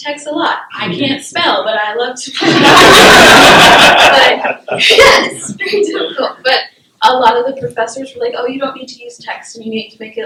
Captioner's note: laughter